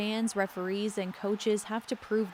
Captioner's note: cheers and Applause